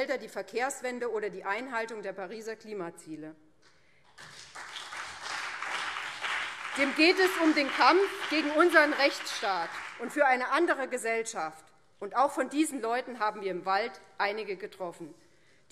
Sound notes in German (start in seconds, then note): 4.0 Beifall BÜNDNIS 90/DIE GRÜNEN und CDU